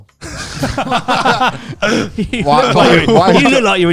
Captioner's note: laughs loudly